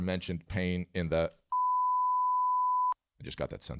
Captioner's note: bleeping sound